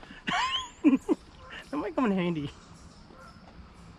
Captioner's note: laughing